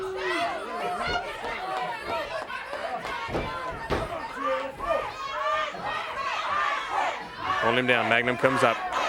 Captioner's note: crowd cheering